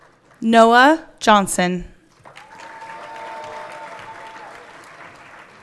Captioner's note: everyone cheering